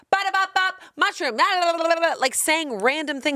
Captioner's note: makes silly sounds